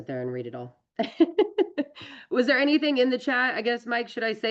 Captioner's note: laughs